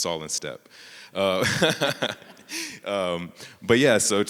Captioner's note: everyone laughing